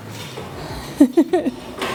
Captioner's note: laughs